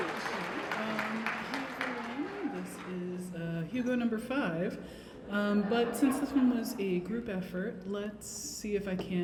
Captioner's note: cheers and applause; applause